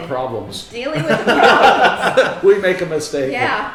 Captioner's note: all laughing